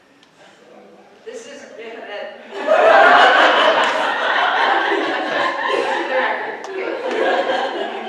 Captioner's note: audience laughs